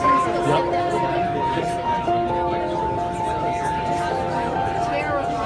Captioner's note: people chattering